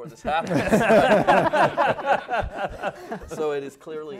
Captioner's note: laughing